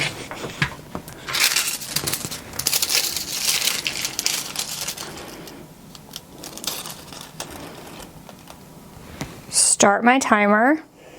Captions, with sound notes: (paper rustling) Start my timer.